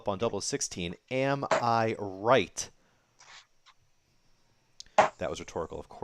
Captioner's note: dart ticks